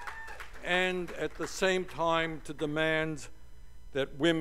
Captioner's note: cheers and applause